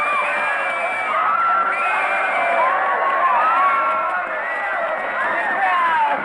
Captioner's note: cheering